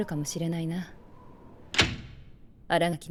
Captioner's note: window closes